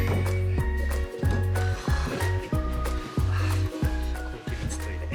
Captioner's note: laughs